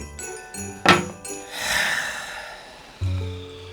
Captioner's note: sighs; somber acoustic music